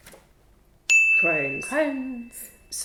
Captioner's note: bell dings